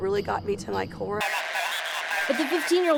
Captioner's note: static buzzes